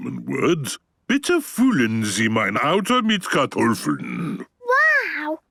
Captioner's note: speaking German